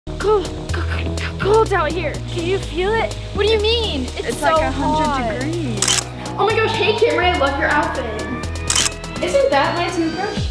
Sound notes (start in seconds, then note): 5.8 camera click; 8.6 camera click